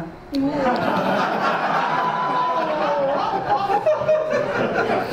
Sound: audience laughs

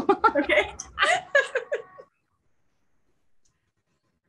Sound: laughs

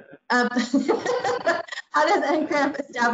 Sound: laughs

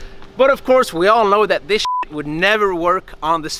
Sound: beep

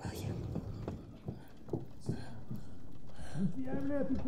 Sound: light knocking

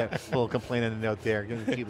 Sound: laughs

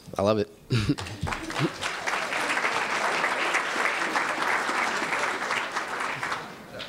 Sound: applause

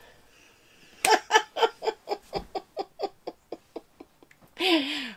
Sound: laughs

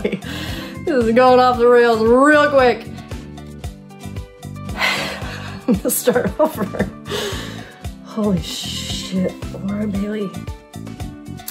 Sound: laughing

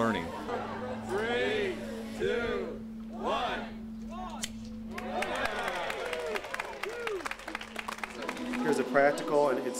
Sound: crowd applause

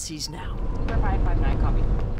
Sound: sirens

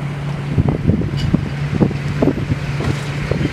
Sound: truck engine running

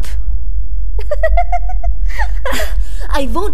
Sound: continues laughing

